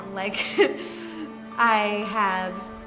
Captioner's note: laughs